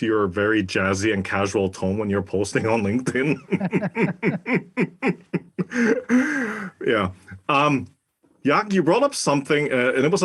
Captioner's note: laugh